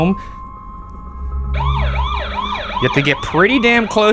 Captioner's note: motion alarm blaring